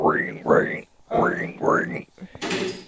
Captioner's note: ring ring, ring ring